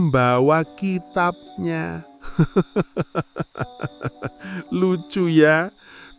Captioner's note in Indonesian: tertawa